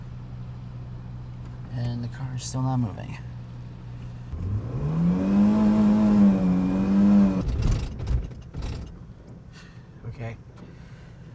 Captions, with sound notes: and the car's still not moving. (engine revs) (car clicks) Okay.